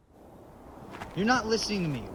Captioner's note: strong wind blows